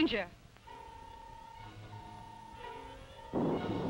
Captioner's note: electronic beeping; thunder rumbling